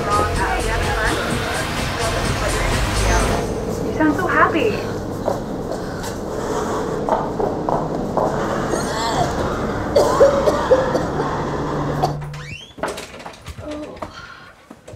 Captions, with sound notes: [Overwhelming chattering and noise] You sound so happy! [puking noise]